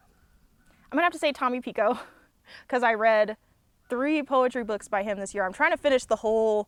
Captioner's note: laughs